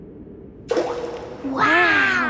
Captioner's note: rock plops